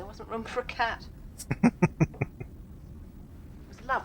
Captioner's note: chuckling